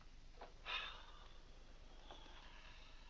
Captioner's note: sighs